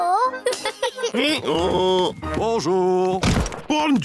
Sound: both giggle; brays

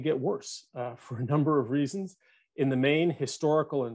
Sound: chuckles

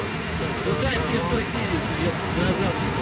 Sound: thunderstorm

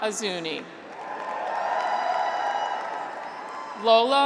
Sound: graduates cheer

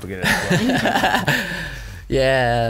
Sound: laughs

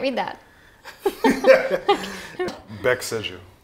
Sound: laughing

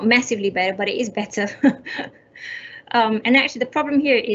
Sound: laughs

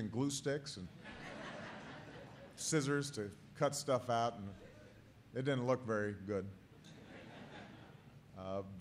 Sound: laughter; laughter

